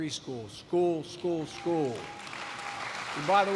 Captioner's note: applause